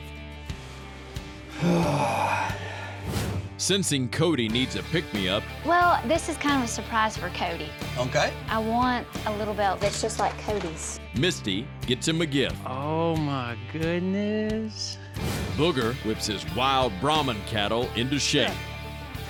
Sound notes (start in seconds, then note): 1.5 groans